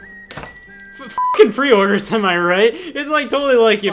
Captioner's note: beep